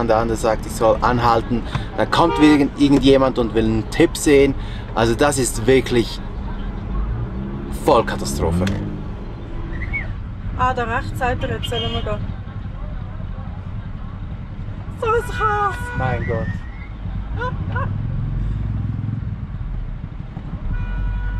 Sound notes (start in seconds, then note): 10.2 in Swiss German; 17.0 laughter